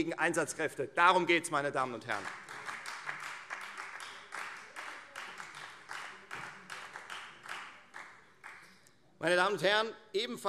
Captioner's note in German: Beifall Freie Demokraten